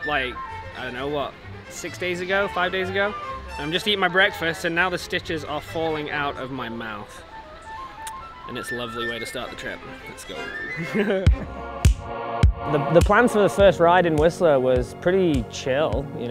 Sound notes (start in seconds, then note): 10.0 laughs; 11.2 electronic music playing